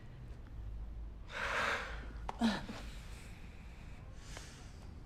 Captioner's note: both sighing